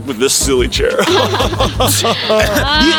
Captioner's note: laughing